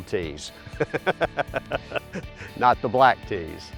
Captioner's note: laughs